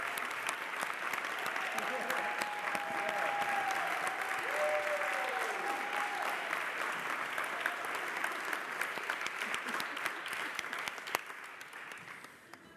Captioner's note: applause